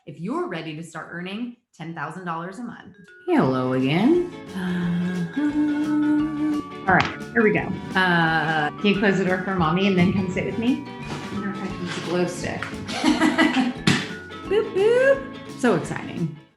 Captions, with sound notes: if you're ready to start earning $10,000 a month. Hello again. (humming) All right, here we go. Can you close the door for mommy and then come sit with me? I wonder if I can use a glow stick. (laughing) Boop-boop, so exciting.